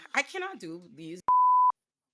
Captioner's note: beep